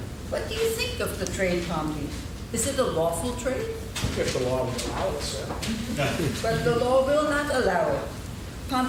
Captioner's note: laughing